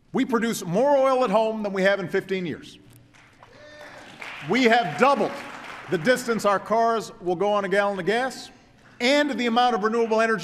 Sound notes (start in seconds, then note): 3.1 applause